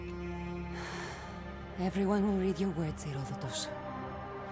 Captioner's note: exhale